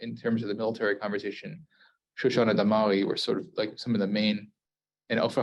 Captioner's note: Hebrew